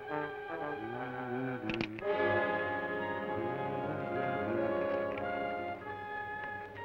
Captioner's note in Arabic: يدندن بلحن; يطلق الرصاص